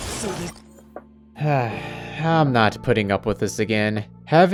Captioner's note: sigh